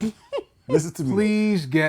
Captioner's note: laughter